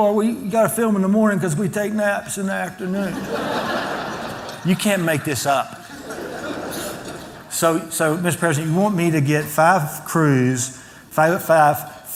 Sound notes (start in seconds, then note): 3.0 laughter